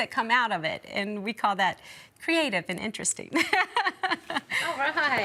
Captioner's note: laughs